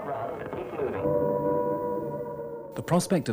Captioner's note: air raid siren blares